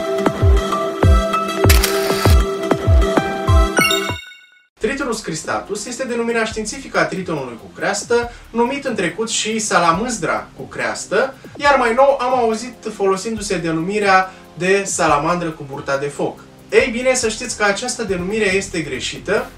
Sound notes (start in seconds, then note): 10.5 in romanian